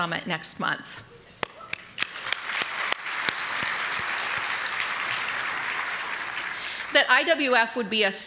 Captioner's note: applause